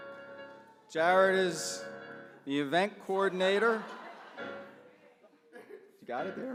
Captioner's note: laughter